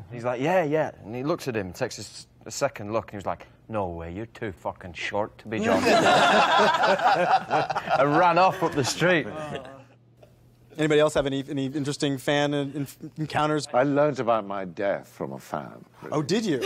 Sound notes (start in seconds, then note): 5.7 all laughing